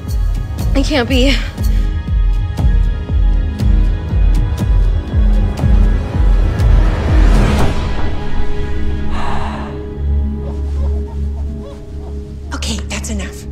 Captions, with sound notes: It can't be... [Blows breath] [Squeaking] - Okay, that's enough.